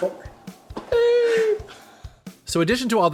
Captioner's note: laughing